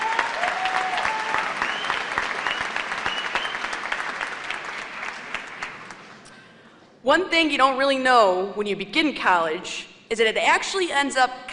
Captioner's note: applause